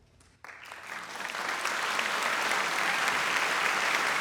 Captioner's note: audience applauding